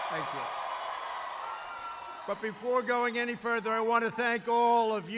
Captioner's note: applause